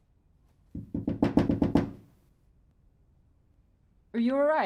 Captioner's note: knocking on door